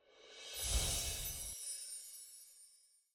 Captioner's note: chimes ringing